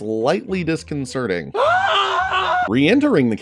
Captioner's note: screaming